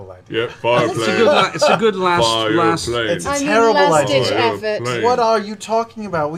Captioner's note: chanting